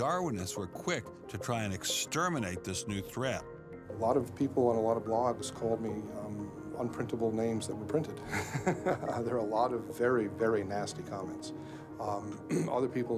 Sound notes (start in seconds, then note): 8.2 laughs